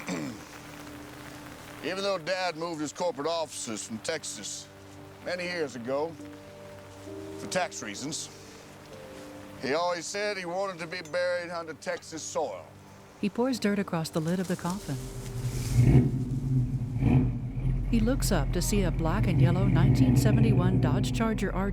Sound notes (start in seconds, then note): 0.0 clears Throat; 15.6 engine Revving Loudly; 17.4 revving